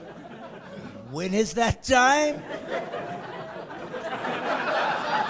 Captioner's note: laughing